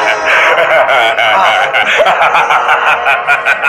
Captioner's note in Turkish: Kahkahalar devam ediyor